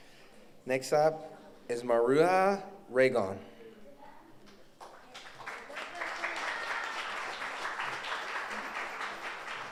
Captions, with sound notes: Next up is Maruja Raygon. (audience applauds)